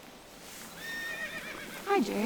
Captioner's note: horse neighing